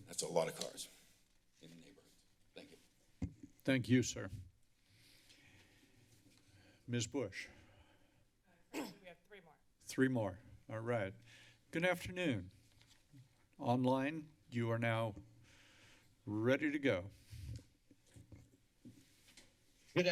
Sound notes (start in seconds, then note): 2.8 rustling sound; 8.7 clears throat